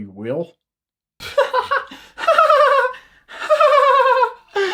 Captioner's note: laughs